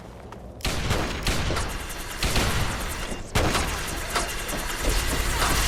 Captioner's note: Sporadic gunfire and the sound of auto-axes whirring alerts Skulls